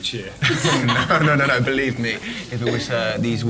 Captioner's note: laughter